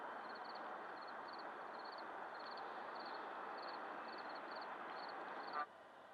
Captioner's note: crickets chirping